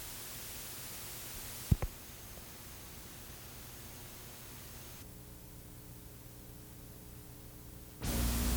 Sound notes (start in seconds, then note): 1.4 static noise